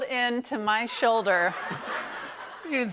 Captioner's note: laughter